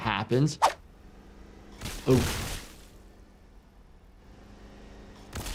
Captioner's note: metal crashing